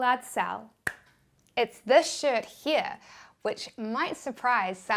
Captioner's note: claps